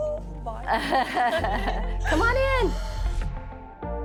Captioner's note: laughs